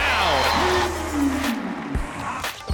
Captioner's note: cheering